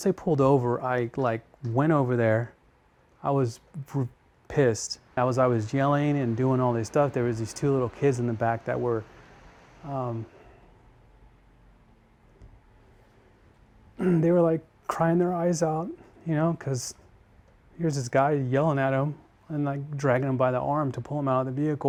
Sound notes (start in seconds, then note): 14.0 clears throat